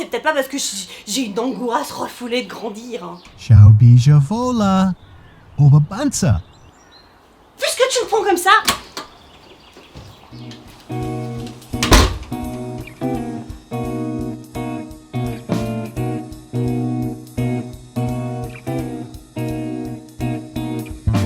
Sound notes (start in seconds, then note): 3.4 German mumble